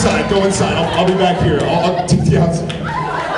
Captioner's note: laughs